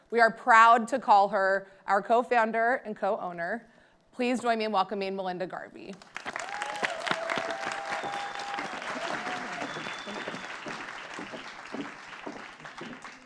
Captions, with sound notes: We are proud to call her our co-founder and co-owner. Please join me in welcoming Melinda Garvey. (audience applauding)